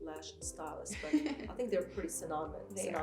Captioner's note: laughs